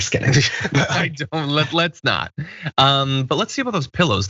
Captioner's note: laugh